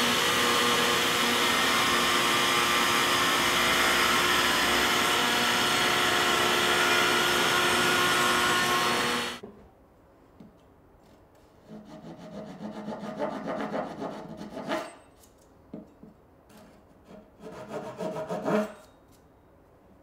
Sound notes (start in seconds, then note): 4.9 tool whirring; 11.0 tool scraping; 16.5 tool scraping